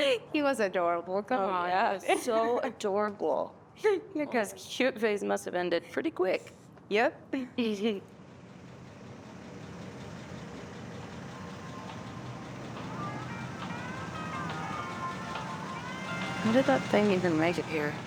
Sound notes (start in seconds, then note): 7.4 laughing; 8.4 engine rumbling; 12.4 tranquil country music